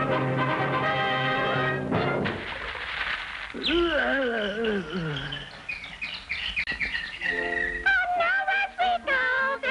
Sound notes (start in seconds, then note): 2.2 splashing; 3.8 pained moaning